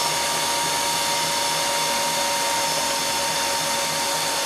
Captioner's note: mixer whirring